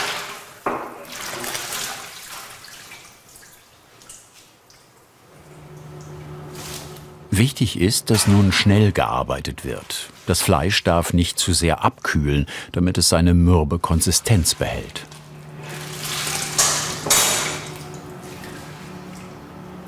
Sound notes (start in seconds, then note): 16.6 clattering